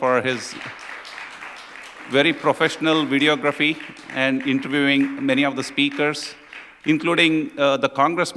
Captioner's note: applause